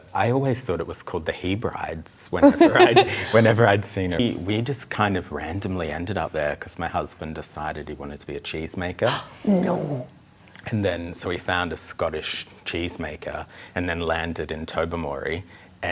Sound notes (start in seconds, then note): 2.4 laughs; 9.1 gasps